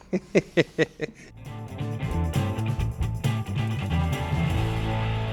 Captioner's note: laughing; upbeat music